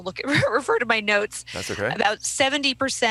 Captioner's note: laughing